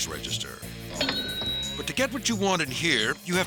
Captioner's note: bell dings